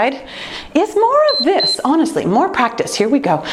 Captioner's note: timer beeping